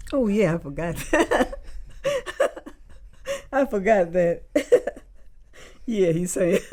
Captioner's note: laughs